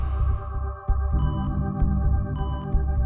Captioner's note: heart monitors beeping